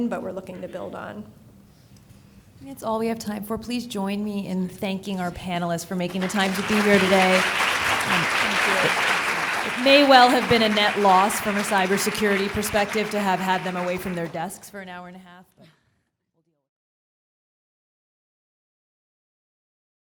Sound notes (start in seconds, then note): 7.8 audience clapping